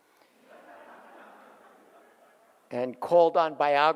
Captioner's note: audience laughs